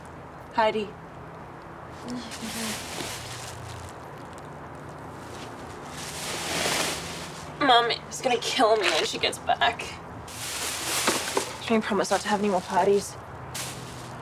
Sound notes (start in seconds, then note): 1.1 bag rustling; 1.1 faint traffic humming